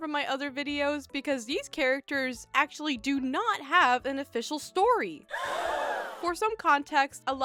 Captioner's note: crowd gasps